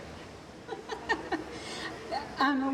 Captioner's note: laughing